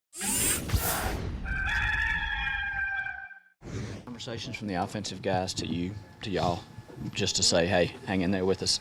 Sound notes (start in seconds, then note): 0.2 whoosh; 1.4 rooster crowing